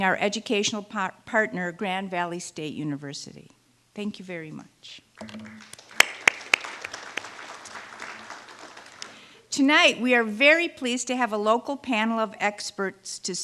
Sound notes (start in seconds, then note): 5.2 applause